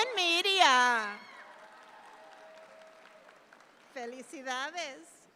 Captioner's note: audience claps